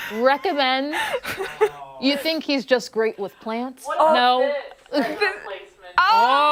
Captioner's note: laughter; laughter